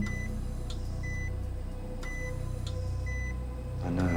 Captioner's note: EKG beeps steady